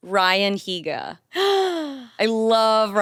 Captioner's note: gasps